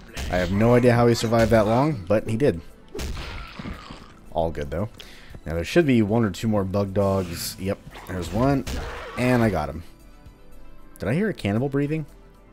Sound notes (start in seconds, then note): 8.5 whack; 8.6 snarl